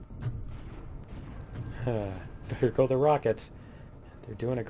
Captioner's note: turrets firing; laughs